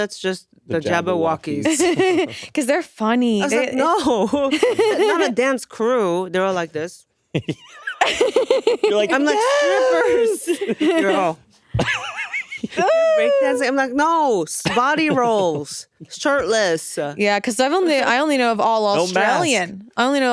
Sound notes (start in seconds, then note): 1.7 laughing; 7.4 laughing